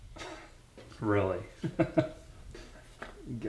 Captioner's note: chuckles